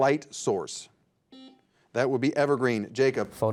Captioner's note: buzzer dings